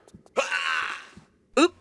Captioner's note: aaaarght!!!